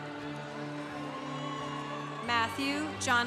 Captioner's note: congregation cheering